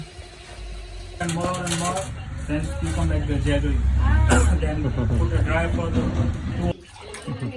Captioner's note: guy chatting in the background